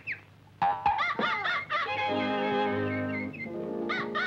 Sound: monkey laughs

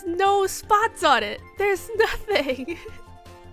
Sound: laughs

